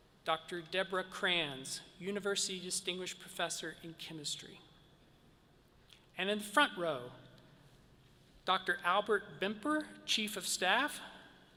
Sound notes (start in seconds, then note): none